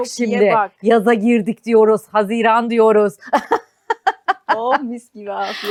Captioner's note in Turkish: kahkaha